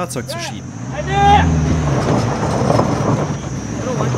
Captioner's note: shouted command, scratching noises